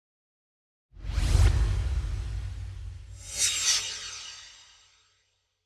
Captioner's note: swoosh